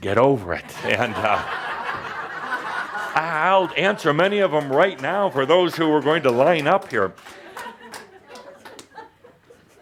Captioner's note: much laughter